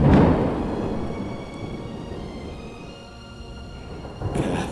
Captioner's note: lightning striking